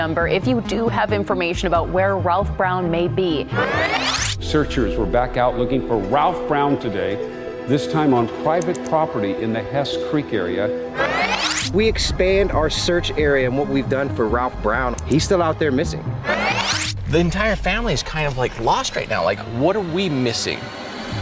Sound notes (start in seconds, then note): 3.5 tape whirring; 10.9 tape whirring; 16.2 tape whirring; 21.0 melancholy music